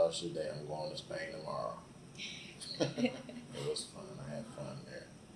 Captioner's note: both laugh